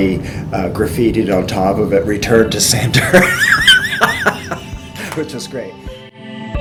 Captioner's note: laughs